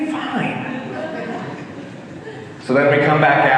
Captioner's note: audience laughing